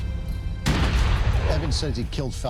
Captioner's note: gunshot booming